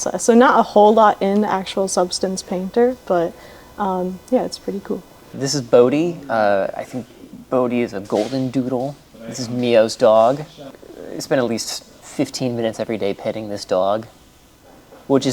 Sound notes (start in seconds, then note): none